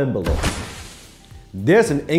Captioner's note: explosion